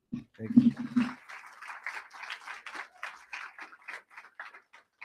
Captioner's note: crowd applauding